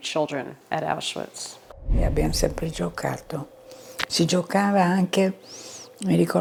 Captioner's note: speaking in foreign language